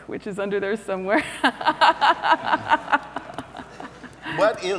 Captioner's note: laughs